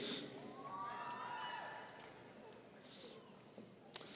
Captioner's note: audience cheering